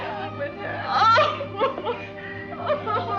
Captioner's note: crying